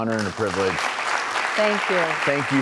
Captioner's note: audience clapping